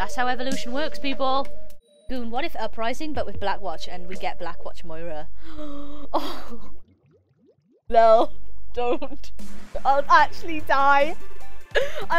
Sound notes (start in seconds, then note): 5.4 gasp